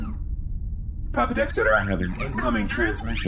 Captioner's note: sound of incoming transmission